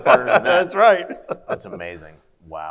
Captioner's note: laughs